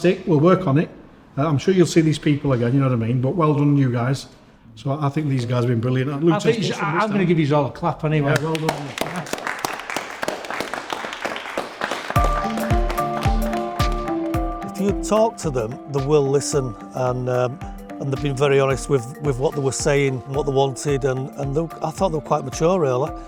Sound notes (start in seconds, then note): 8.3 clapping